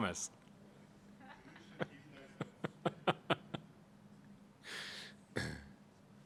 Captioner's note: laughs; laughing